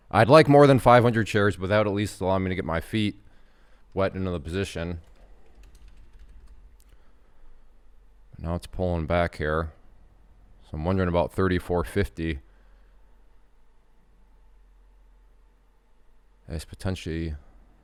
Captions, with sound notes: I'd like more than 500 shares, but that, at least, will allow me to get my feet wet into the position. (types on keyboard) Now it's pulling back here. So I'm wondering about 34.50. At least, potentially.